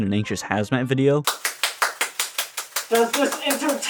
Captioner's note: slapping